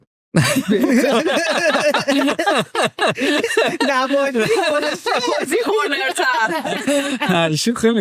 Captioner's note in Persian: خنده